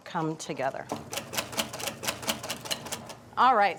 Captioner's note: whisk rattling